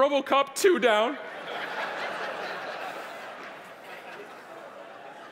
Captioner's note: audience laughing